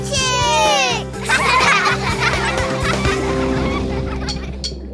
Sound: laughing

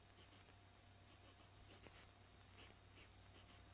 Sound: sniffing

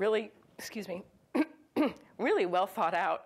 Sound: clears throat

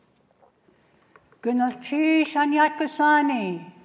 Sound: non-english speech

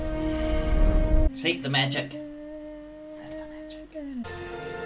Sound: humming out of tune

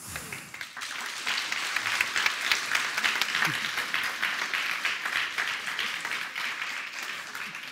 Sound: Applåder

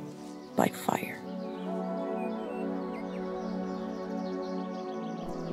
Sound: birds chirping

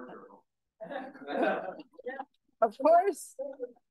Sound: audience members laugh

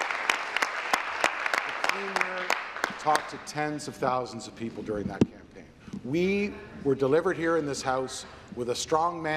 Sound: applause

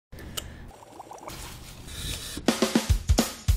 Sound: water burbling; percussive music

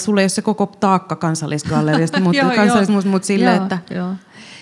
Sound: laughing

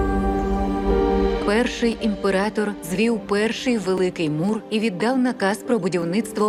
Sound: wondrous music playing; narrator in English

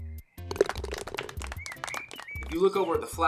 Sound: ball falls into cup, applause

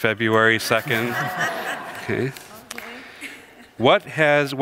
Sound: congregation laughs

